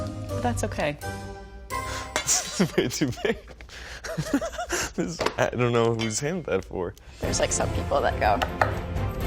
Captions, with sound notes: - But that's okay. - Way too big. [laughing] I don't know whose hand they're for. - There's like some people that go.